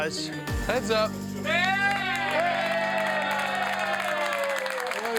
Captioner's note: crowd cheers